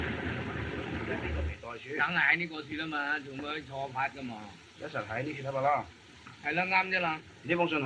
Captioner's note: discussion in Chinese